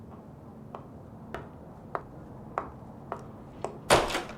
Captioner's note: footsteps clack; door clicks